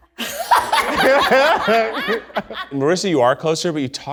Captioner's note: laughs loudly; audience laughs